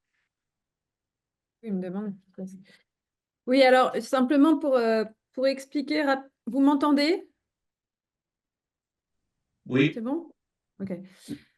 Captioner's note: speaking in French